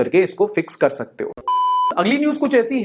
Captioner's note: beep